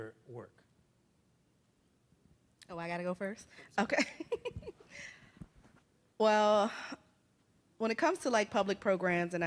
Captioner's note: laughs